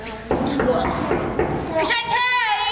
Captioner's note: knocking